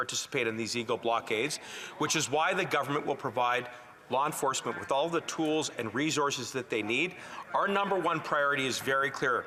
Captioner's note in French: voix de l'interprète